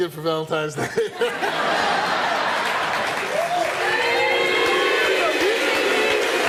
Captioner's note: audience laughing, applauding